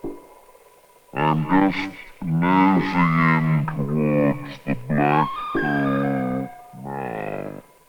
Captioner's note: distorted speech